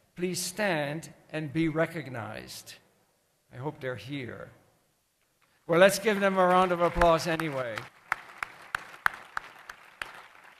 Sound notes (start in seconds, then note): 7.6 applause